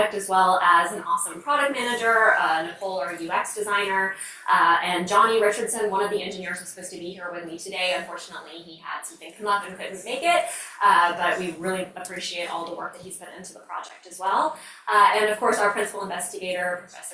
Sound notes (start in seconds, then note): none